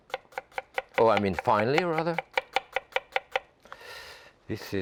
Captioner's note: knife tapping